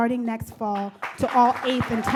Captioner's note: audience claps